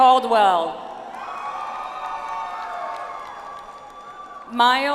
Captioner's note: audience applauds